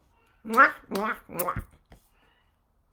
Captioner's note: kissing